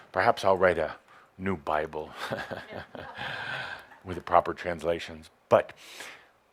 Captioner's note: Adamus chuckles